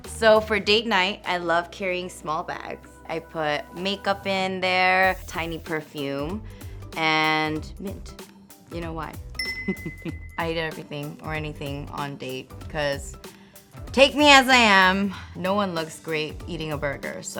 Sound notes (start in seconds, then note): 9.3 ding